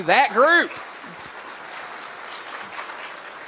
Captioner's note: applause